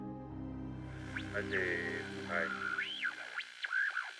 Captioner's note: whirring noise